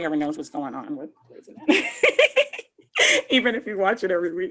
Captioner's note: laughs